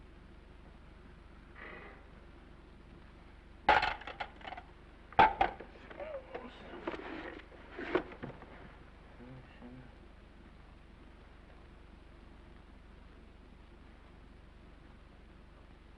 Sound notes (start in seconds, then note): 3.7 receiver clattering; 5.8 groans